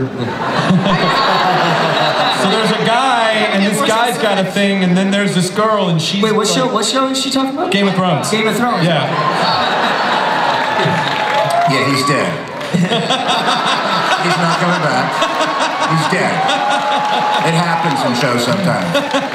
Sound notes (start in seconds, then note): 0.1 everybody laughs; 9.1 everybody laughs